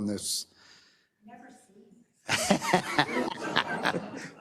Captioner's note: laugh